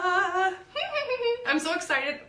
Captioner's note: laughs